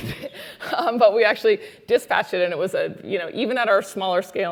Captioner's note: laugh